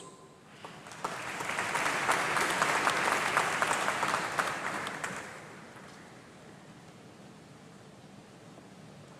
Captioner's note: applause